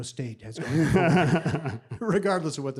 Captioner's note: group laughing